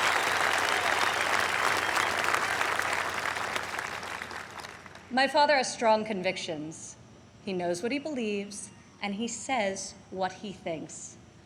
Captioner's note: applause